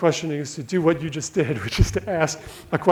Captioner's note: laughs